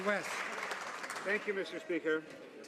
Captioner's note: some Applause